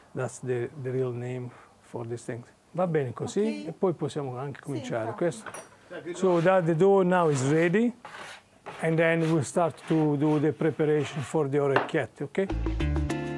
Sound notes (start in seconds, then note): 2.7 speaking Italian